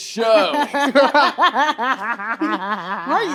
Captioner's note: all laughing